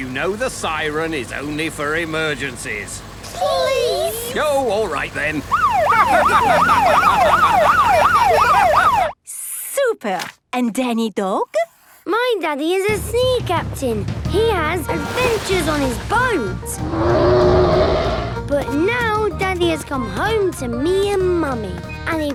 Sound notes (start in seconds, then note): 5.5 siren wailing; 7.6 laughing; 16.8 loud roar